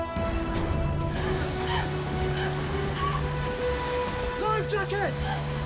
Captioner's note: Nelly gasping